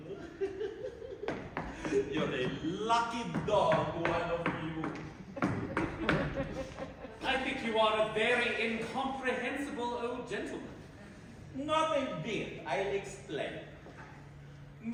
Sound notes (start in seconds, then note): 0.0 lecherous giggling; 5.2 laughter